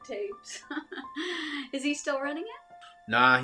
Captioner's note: chuckles